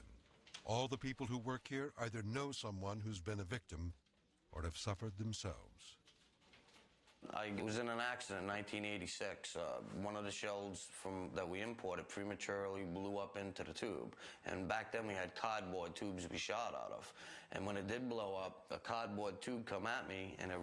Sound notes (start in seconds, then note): none